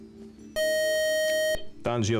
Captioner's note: time-out buzzer